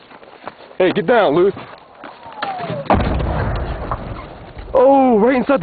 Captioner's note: explosion booming